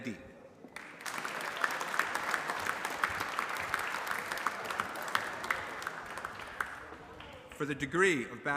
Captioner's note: applause